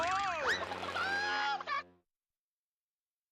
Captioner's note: Foghorn clucking; screams